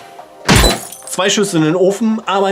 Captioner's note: glass shattering